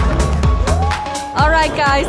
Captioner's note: clapping